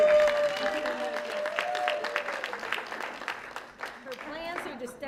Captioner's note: applause